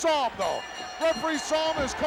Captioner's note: bell ringing